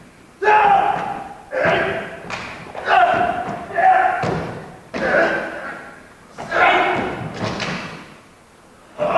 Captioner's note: Manjiro and an old samurai grunt as they spar